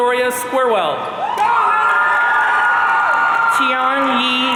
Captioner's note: audience cheering